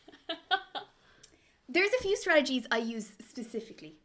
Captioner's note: laughs